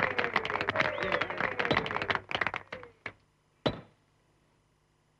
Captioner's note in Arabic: ضربات المطرقة